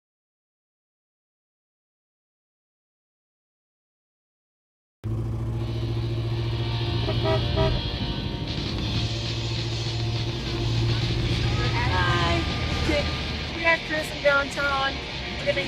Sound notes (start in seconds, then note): 5.1 engine roaring; 6.4 car honking; 11.0 woman mumbling